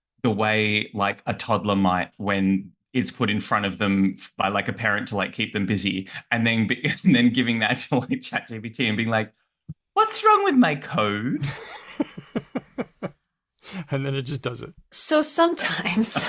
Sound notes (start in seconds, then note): 14.0 laughs